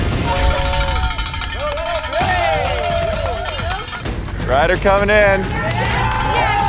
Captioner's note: spectators cheering; metal clanging